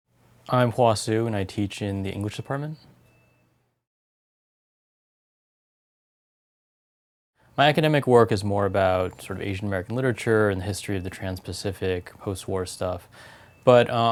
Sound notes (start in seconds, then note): 4.2 pause